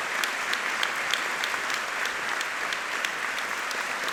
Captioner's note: audience applauding